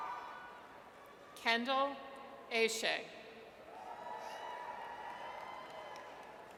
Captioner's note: audience cheers; audience cheers